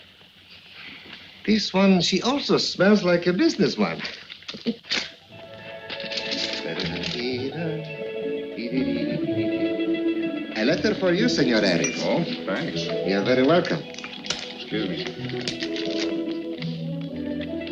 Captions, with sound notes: This one, she also smells like a business one. (bright music) (Tomaso humming) A letter for you, Senor Harris. - Oh? Thanks. - You're very welcome. - Excuse me.